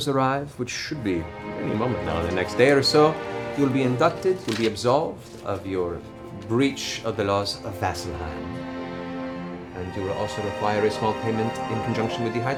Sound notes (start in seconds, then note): none